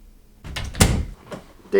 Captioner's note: door closes